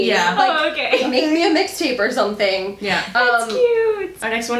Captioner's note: laughing